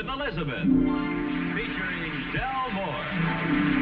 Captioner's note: audience applauding